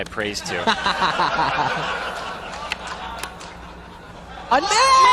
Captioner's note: crowd laughs